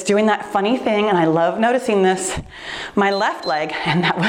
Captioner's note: timer beeps